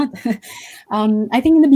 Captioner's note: laughs